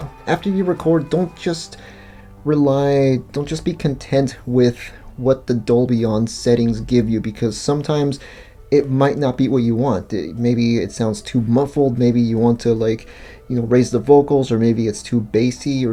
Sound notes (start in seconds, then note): none